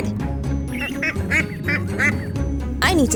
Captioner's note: duck quacking